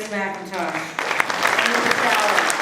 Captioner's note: applause